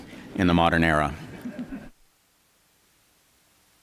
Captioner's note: laughter